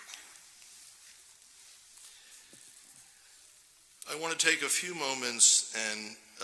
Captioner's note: applause